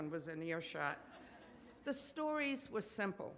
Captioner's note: audience laughs